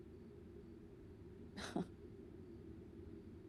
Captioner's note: chuckles